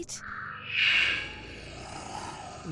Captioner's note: growls